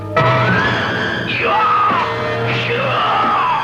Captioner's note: yelling